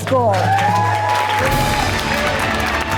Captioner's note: applause; cheering; triumphant music